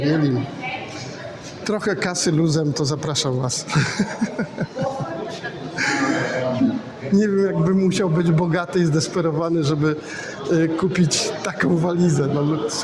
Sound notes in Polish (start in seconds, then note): 3.7 śmiech